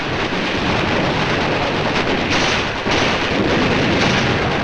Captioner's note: guns firing